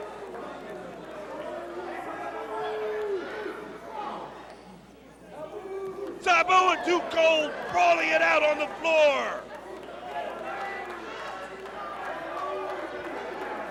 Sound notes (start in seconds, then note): 1.8 crowd chatter